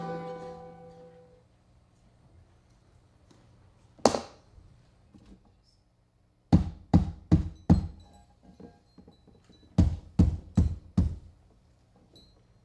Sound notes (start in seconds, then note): 3.8 hammer clattering; 7.3 knocking